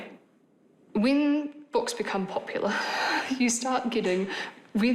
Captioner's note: chuckles